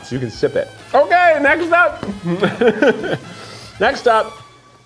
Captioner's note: chuckles